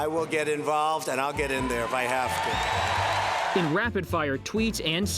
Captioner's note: cheers, applause